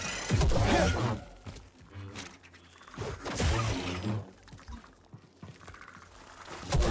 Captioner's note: gunshots